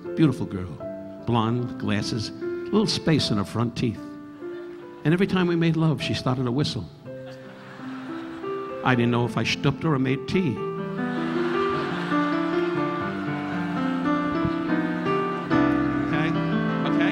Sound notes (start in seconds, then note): 7.2 audience laughing; 10.8 audience laughing; 12.5 relaxing piano music continues